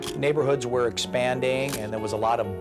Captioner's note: camera shutter click